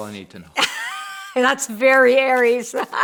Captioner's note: laughs